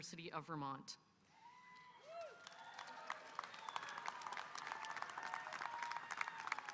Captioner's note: audience cheering and applauding